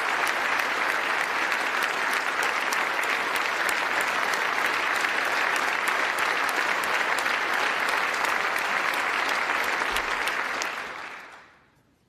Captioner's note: applause